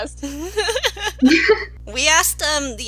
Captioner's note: laughs